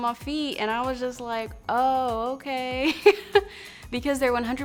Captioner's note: she laughs